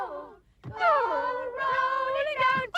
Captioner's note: whines